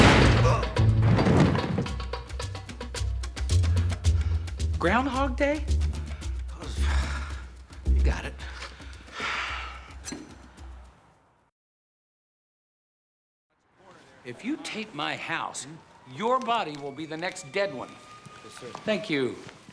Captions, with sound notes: (grunts) Ground Hog Day? I was... You got it. (sighs) If you tape my house, your body will be the next dead one. Yes, sir. Thank you.